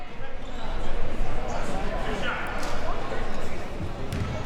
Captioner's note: audience chattering